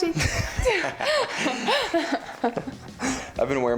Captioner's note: both laugh